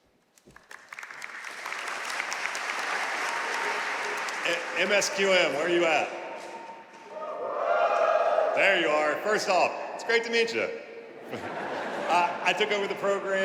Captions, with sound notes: (audience applauding) - MSQM, where are you at? (audience hooting) There you are. First off, it's great to meet you. (audience laughing)